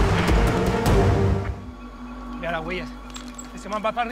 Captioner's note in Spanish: Disparos